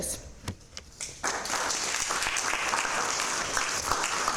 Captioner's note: audience applauding